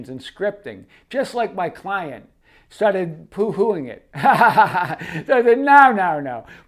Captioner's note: laughs